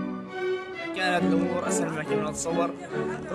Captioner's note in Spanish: hombre en su idioma